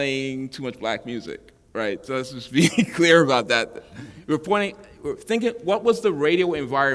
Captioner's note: chuckle